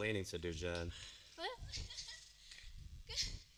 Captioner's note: more nervous laughter